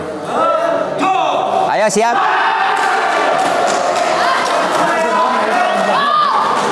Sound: applause

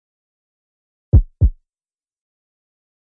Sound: sound of heartbeat

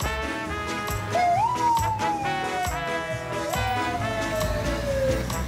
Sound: laughing; fire truck sirens

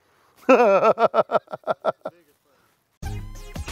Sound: laughs

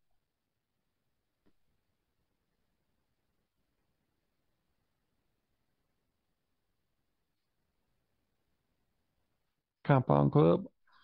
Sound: silence

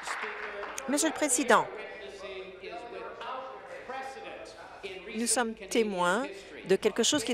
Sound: applause

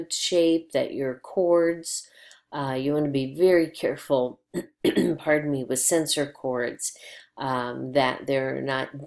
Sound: throat clearing

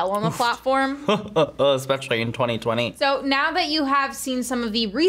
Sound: chuckles

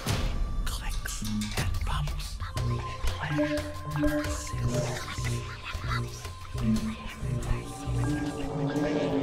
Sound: whispers

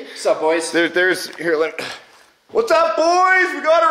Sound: grunts

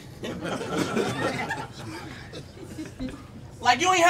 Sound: audience chuckles

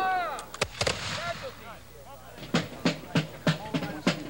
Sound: gun firing

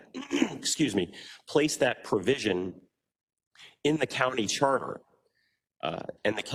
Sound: cough

